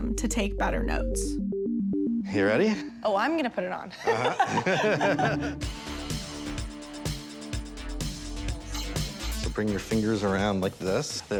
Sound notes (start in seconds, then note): 4.0 laughs; 5.8 upbeat music